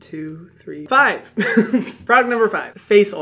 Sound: giggles

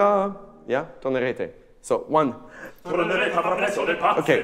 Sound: singing in a foreign language; speaking in a foreign language; singing in a foreign language

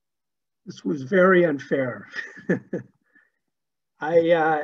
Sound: laughs

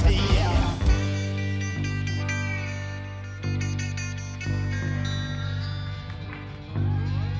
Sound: audience applauds

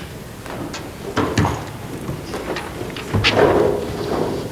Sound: group buzzing

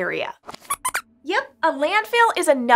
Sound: squeaks squeaks

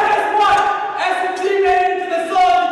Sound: cheering

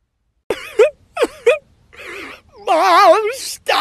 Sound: sob

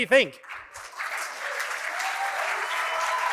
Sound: cheering and applause

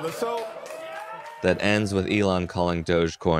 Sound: some cheers from the audience

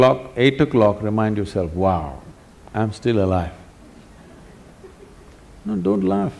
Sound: laughter; 笑聲

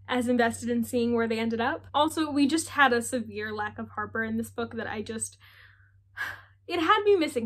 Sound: sigh

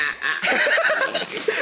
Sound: bursts in laughter

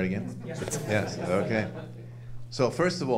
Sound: audience laughing

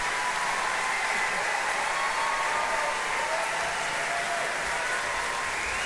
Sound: audience cheering continues

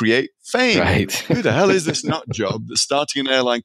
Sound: laughing

